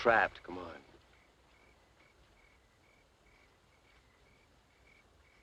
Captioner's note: crickets chirping